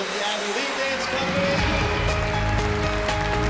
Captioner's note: applause